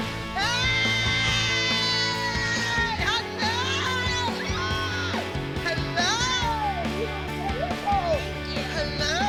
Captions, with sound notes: [yells] Hello! [squeals] Hello! You were amazing!